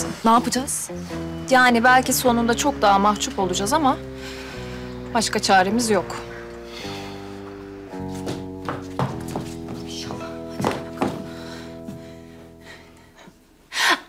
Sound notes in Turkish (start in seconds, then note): 7.9 Ayak sesi; 11.2 Nefes sesi